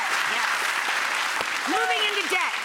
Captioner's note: audience applauding